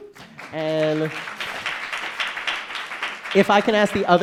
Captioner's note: audience applauding